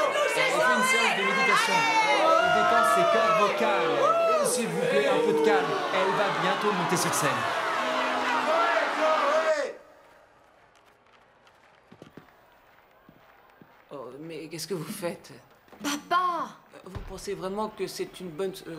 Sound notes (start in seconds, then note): 5.0 booing loudly; 7.4 loud booing